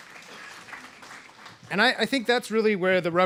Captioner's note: applause